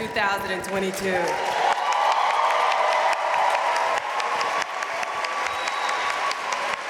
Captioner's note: audience cheering and applauding